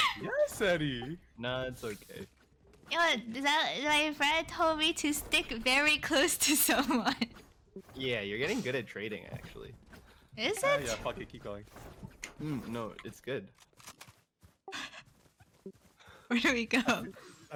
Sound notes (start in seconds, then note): 14.2 chuckling